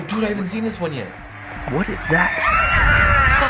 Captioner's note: Peeta and Katniss scream; cracking up